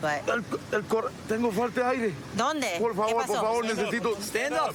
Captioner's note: speaking spanish